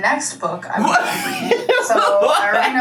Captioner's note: laughs